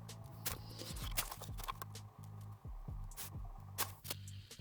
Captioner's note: fast forwarded skratchy sounds of pen on paper